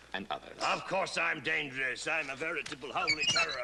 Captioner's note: armor squeaks